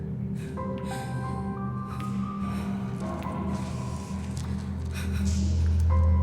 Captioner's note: somber music; Tara sobbing